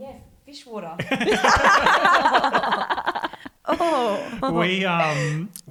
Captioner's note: all laugh